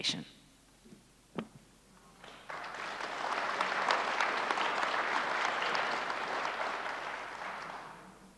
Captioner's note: applause